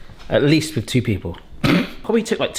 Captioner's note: laughing